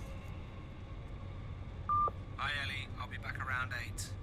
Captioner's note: beep